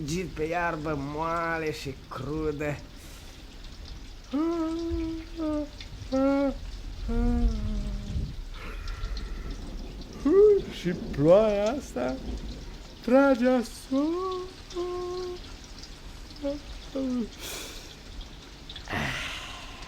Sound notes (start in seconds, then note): 3.6 crack sound